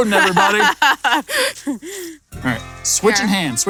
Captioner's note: laughs